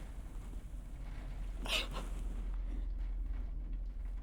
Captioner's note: sobbing